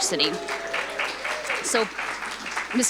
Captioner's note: audience cheering